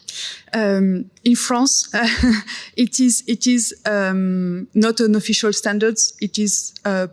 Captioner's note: laughs